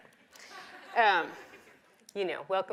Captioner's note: audience laughs